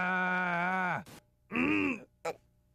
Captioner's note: yelling in monotone; grunting